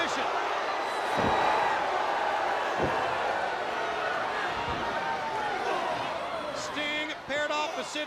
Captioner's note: crowd cheering